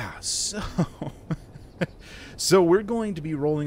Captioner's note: epik chuckle